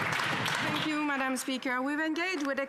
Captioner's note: some Applause